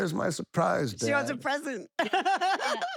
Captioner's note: laugh